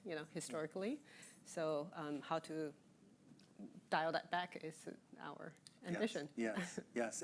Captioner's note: chuckling